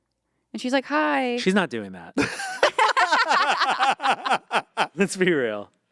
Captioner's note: group laughing